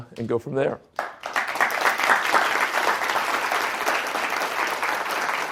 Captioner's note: audience applauding